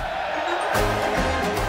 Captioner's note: crowd cheering